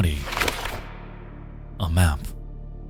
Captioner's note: map rustles